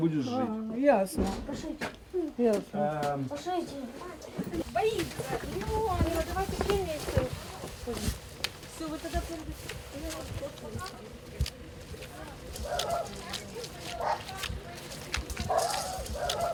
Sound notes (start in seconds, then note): 4.1 group speaking; 12.5 dogs barking